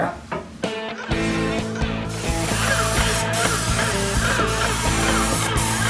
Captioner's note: upbeat music; spraying